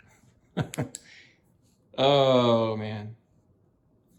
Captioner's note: Chuck chuckles nervously